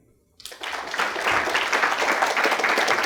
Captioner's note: applause